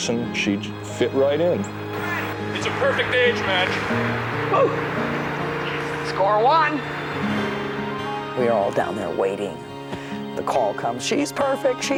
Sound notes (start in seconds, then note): 4.6 volunteer cheering